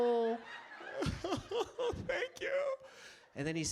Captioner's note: sobbing theatrically